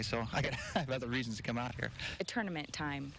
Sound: laughs

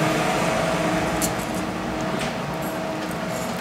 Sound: machine drones

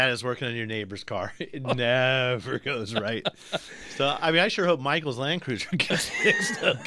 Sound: laughs; both laugh

